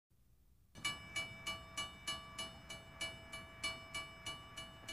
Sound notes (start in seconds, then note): 0.8 train bell rings